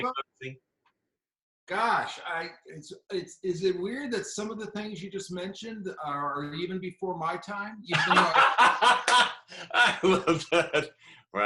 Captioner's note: laughter